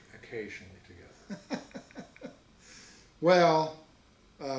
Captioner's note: laughs